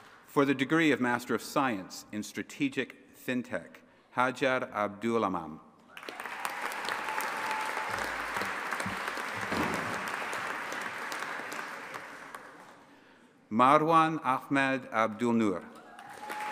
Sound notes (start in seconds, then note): 5.9 audience applauding and cheering; 15.8 audience applauding and cheering